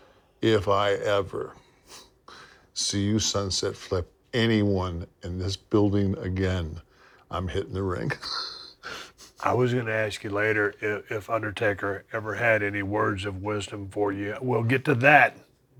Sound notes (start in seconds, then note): 9.4 laugh